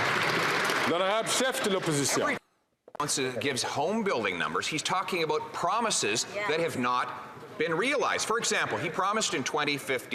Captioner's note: some Applause